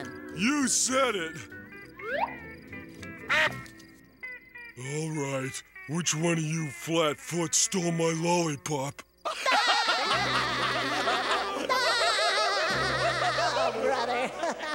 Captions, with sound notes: You said it. [quacking] Alright, which one of you flatfoots stole my lollipop? [laughing] Oh, brother.